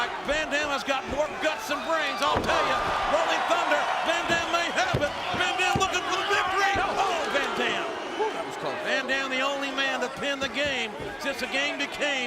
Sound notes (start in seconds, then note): none